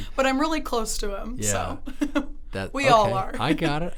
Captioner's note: laughs